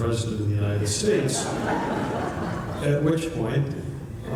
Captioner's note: laughter